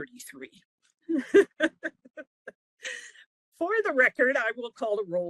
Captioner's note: laughing